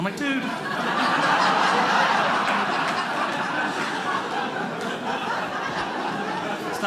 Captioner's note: audience laughing